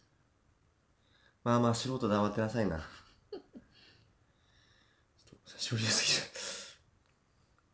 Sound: laughs

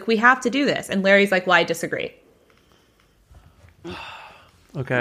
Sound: sighs

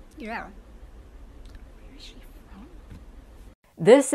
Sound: whispering

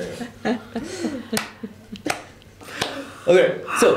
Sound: slow clap

